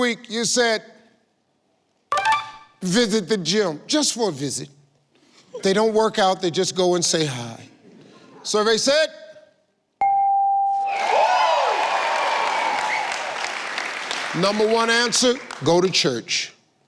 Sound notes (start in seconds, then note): 10.0 computer beeps; 10.8 audience cheering